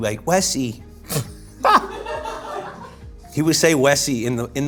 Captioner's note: laughing